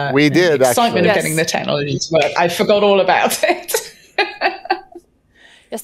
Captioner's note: laughs